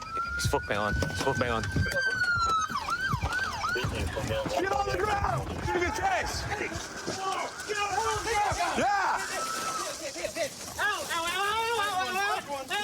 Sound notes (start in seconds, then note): 7.3 shouting; 10.6 screaming